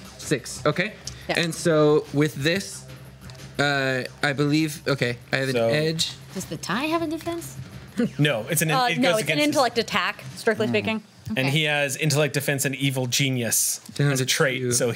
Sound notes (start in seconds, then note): none